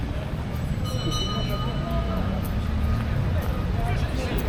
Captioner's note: people chattering